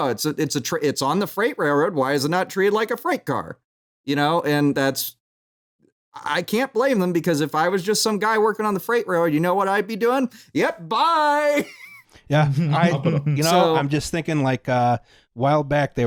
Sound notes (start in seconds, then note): 11.5 chuckles